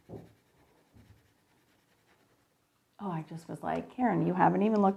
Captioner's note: pencil scraping